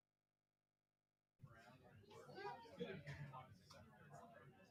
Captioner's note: chatter